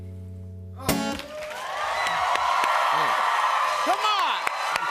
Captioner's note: cheers and applause